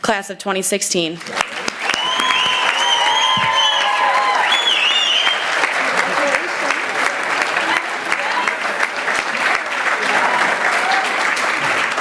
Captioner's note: applause